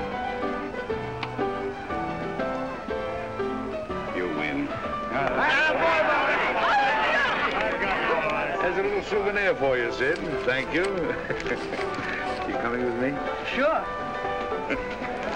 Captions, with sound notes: YOU WIN. ( cheering ) HERE'S A LITTLE SOUVENIR FOR YOU, SID. THANK YOU. ARE YOU COMING WITH ME? SURE.